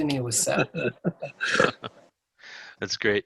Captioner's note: laughing